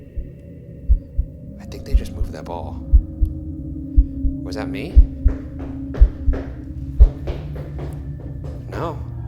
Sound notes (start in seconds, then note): 0.2 eerie music; 5.0 foot tapping; 6.9 eerie music